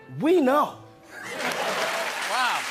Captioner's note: cheers and applause